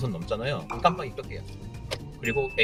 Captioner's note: turn signal OFF